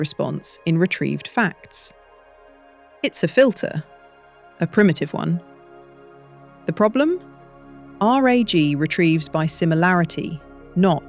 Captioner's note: serious tone